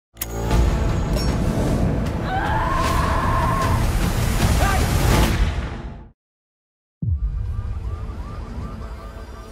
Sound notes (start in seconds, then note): 0.2 tense music plays; 2.2 screams; 4.5 gunshot fires; 7.0 ominous music plays; 7.1 alarm wails distantly